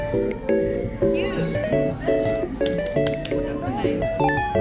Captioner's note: plastic glove clapping